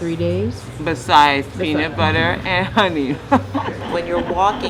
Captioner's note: laughs